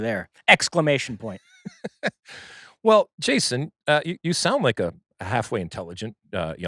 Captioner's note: laughs